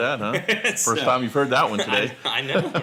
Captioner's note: laughs